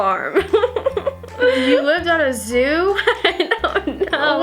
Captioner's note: laughs